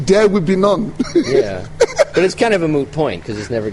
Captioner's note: laughs